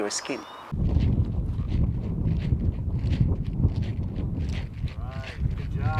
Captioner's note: wind whooshing; feet tapping